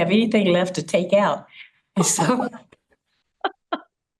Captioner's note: laughter